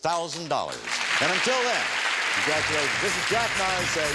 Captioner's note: audience applauds